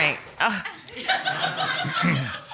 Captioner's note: audience laughs